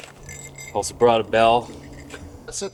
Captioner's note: bell jingling